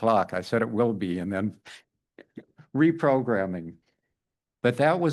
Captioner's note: laughs